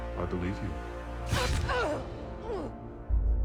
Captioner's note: groaning